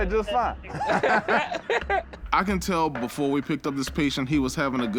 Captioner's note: laughter